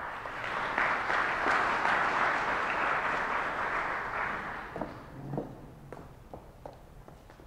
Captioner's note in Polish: oklaski